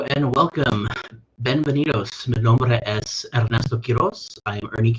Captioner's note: speaks in foreign language